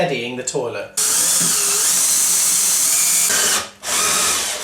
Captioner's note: drilling sound